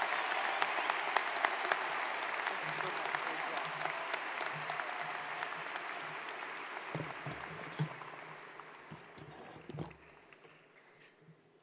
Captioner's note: cheers and applause